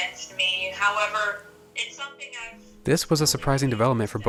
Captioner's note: voice trails off